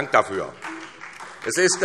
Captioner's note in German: Beifall SPD und DIE LINKE